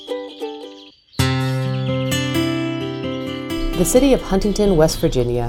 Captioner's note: birds chirping, slow music